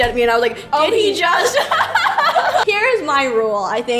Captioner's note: laughs